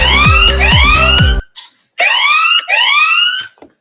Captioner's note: alarm ringing